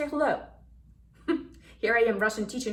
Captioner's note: laughs